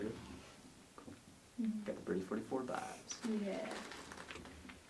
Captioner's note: mumbles